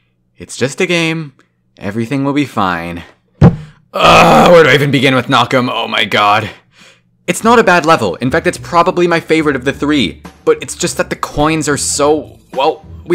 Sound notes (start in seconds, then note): 3.4 thump